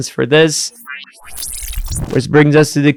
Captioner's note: machine whirring